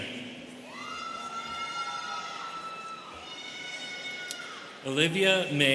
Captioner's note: students cheering